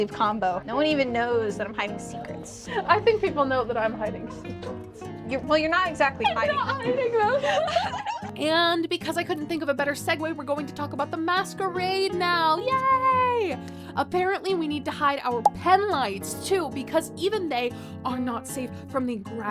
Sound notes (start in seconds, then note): 6.2 laughter